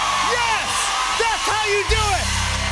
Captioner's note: cheers and applause